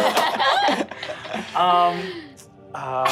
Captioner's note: all laugh